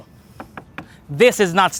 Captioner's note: tap tap tap